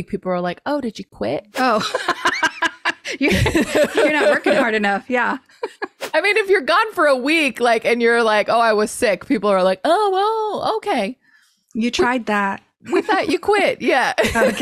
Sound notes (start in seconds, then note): 1.6 laughs; 14.2 laughs